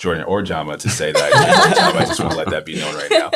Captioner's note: all laughing